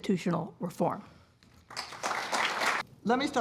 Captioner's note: applause